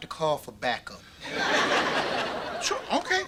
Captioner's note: audience laughter